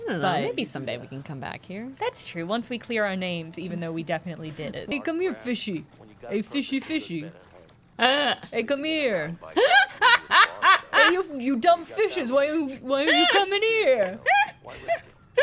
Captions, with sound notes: -I dunno, maybe someday we can come back here. -That's true, once we clear our names, even though we definitely did it. -Hey come here, fishy. Hey, fishy fishy. Hey, come here. [laughter] Hey, you dumb fishes, why aren't you comin' here?